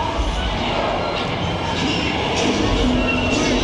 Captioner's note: tram creaks; people shout